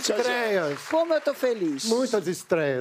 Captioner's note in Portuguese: aplausos